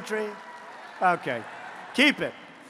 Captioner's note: applause